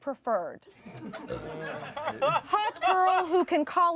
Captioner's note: everyone laughs